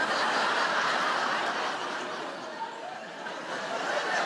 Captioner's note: audience laughing